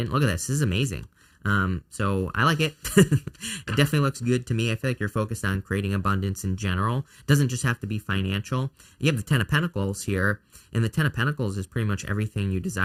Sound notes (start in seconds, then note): 2.7 chuckles